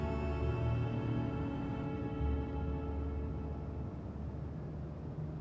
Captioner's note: car engine humming; somber music